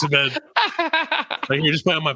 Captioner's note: laughing